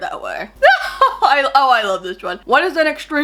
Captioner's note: laughs